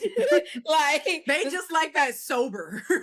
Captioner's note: laughing